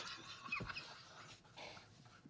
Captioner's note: laughing